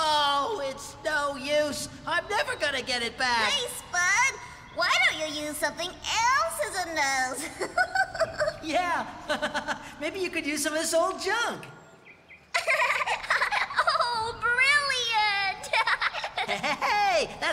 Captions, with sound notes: OH, IT'S NO USE. I'M NEVER GOING TO GET IT BACK. HEY, SPUD! WHY DON'T YOU USE SOMETHING ELSE AS A NOSE? ( Laughing ) YEAH! ( Laughing ) MAYBE YOU COULD USE SOME OF THIS OLD JUNK. ( Giggling ) OH, BRILLIANT! HEY-HEY-HEY!